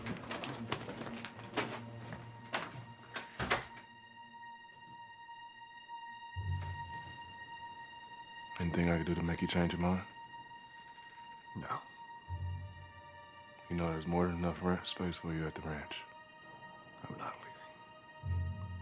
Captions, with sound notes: (door closes) (suspenseful orchestral music) - Anything I can do to make you change your mind? - No. - You know there's more than enough space for you at the ranch. - I'm not leaving.